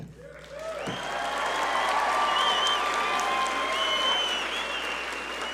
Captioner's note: audience cheer and applaud